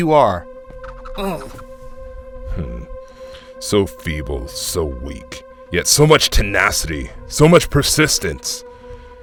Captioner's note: sigh